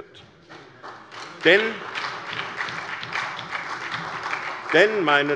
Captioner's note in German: Beifall bei der SPD